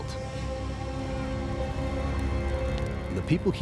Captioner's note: fire crackling